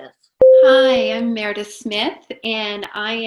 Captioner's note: bell rings